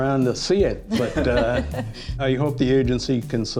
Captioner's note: laughs